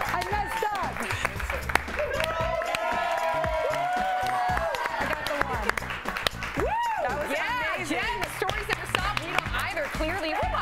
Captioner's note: cheering